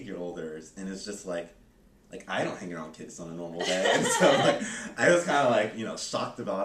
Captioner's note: laughter